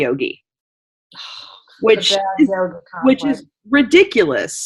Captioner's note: scoffing